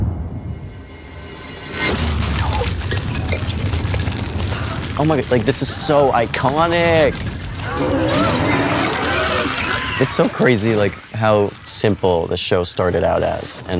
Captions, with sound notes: - No. (light circuits whirring) - Oh my god, like, this is so iconic! (Demogorgon roaring) It's so crazy how simple the show started out as.